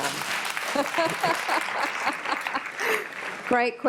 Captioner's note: applause